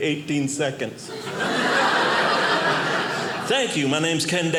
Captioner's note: audience laughing